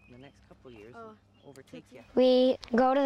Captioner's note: soft conversation